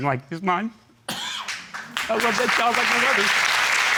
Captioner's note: audience applauding